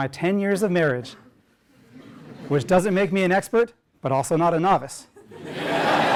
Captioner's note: laugh; laugh